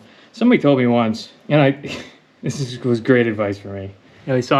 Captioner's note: chuckle